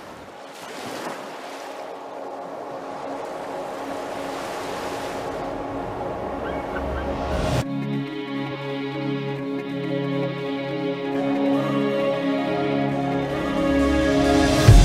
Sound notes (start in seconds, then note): 0.0 ocean waves rolling; 4.5 seagulls crying